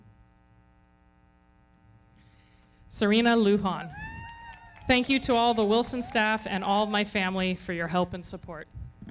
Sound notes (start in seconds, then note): 3.8 audience cheering; 3.9 everybody clapping